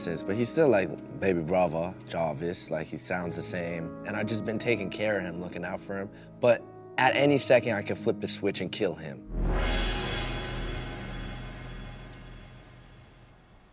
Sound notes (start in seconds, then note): 9.3 ominous clanging tone